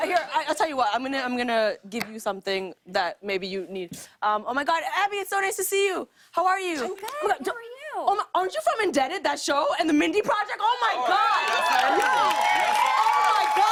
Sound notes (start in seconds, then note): 10.9 cheers and applause